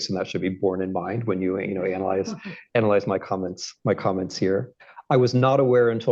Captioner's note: laughter